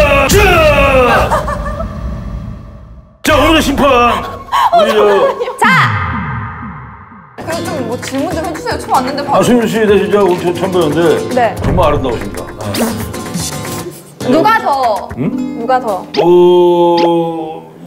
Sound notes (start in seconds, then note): 12.7 laughing